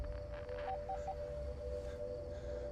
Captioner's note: phone beeping; tense music